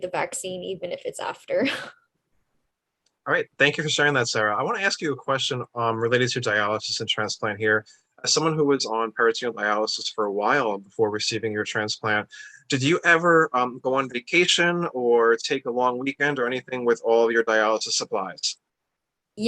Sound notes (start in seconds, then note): 1.7 laughs